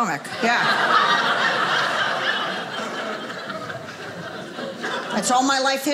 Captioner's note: audience laughing